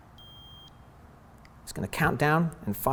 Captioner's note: beep